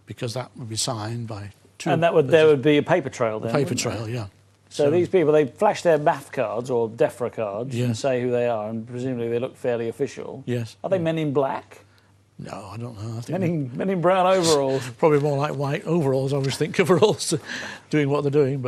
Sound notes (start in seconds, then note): none